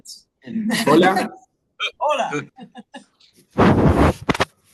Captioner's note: attendees laughing